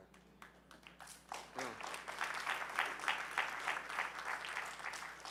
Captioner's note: audience applauding